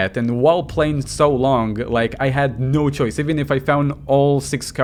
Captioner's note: none